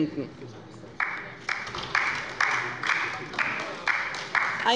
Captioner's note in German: Beifall bei der LINKEN